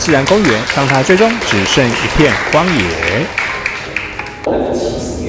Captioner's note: applause